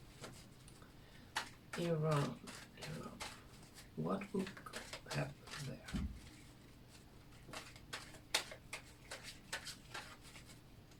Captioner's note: shuffling